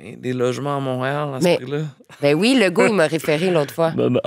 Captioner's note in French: rire